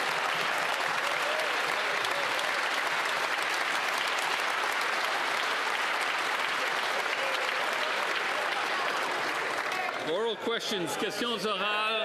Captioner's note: some Applause